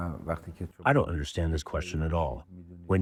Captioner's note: through translator